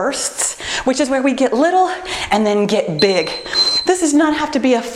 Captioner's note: timer beeps